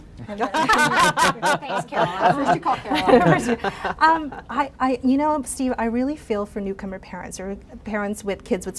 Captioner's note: laughter